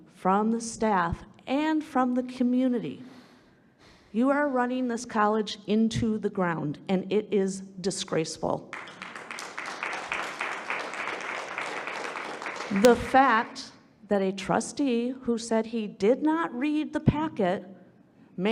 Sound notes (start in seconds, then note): 8.7 audience applauding